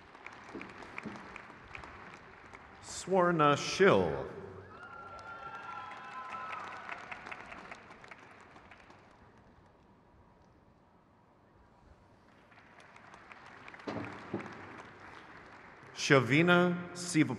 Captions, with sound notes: Nina Renee Darwich. (crowd cheers)